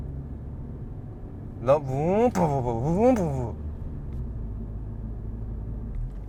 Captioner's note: exhaust sound